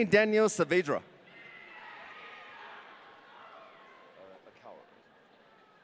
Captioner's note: audience cheering